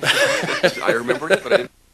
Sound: laughter

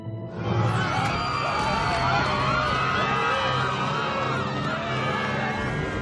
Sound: panicking

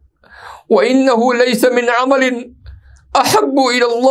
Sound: arabic

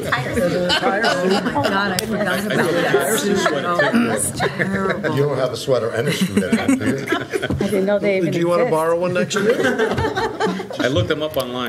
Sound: laughter

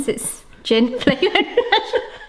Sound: both laughing

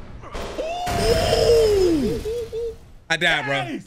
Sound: men gasp; explosion crashes loudly

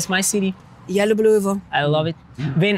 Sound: speaking in foreign language

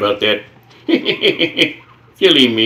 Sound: chuckles

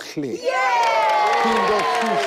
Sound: applauds and cheers

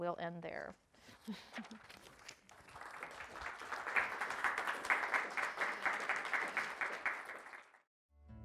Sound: applause

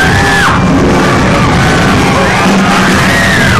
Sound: woman screams

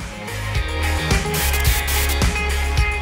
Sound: static buzzing; upbeat music

